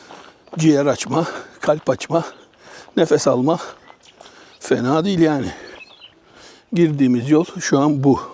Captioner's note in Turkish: homurdanır